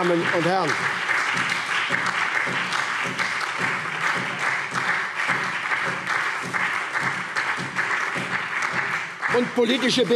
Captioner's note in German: Beifall SPD